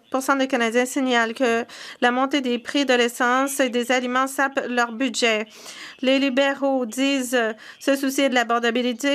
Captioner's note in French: voix de l'interprète